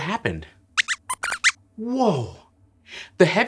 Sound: squeaks squeaks excitedly

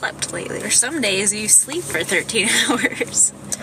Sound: laughing

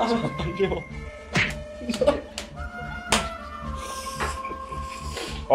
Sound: whipping

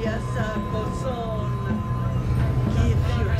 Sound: chanting in foreign language

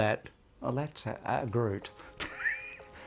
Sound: laughs

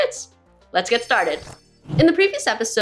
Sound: jingling sound

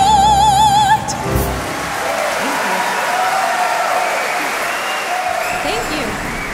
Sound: audience cheering

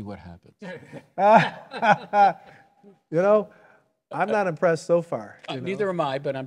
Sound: laughing

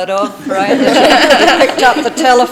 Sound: people laughing

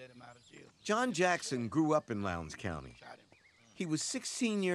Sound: voiceover

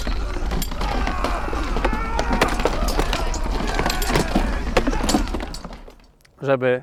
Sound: sounds of battle

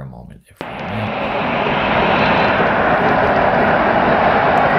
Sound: audience crowds

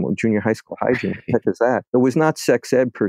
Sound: laughs

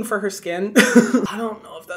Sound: Hyram laughing

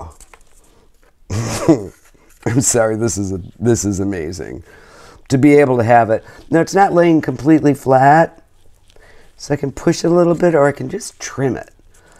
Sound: laughs

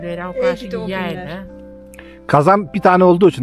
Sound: sighing

